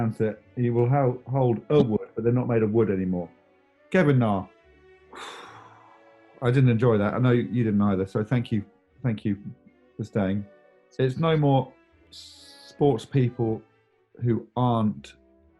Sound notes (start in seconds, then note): 5.1 exhales